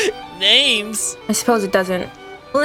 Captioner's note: laughs